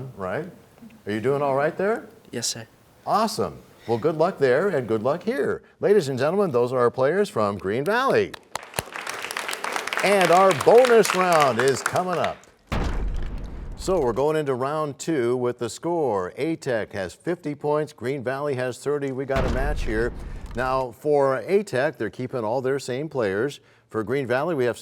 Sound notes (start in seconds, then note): 8.2 applause; 12.6 crashing sound